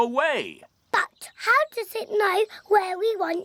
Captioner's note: none